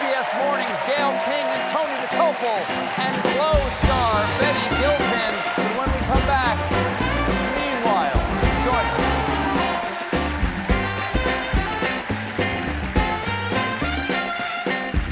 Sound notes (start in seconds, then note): 9.5 applause